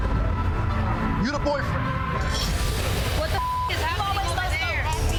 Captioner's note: beep